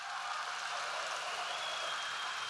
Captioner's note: applause